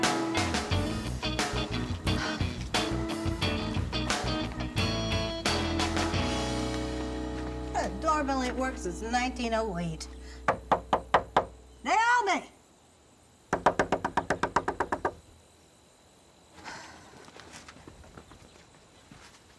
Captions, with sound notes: (bright upbeat music) Her doorbell ain't worked since 1908. (sharp knocking) Naomi! (rapid knocking) (Ernestine sighs)